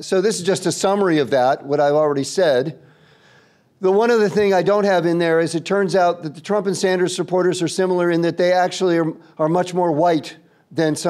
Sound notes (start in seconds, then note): none